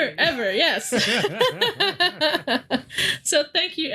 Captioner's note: both laughing